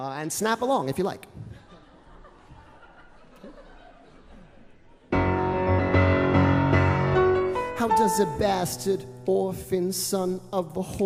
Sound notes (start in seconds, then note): 1.4 laughter